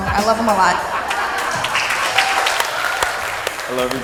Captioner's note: crowd laughs